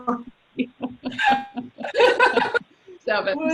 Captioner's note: laughs